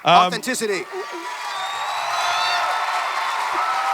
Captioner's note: audience cheering and clapping